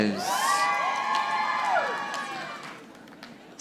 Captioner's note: audience applauding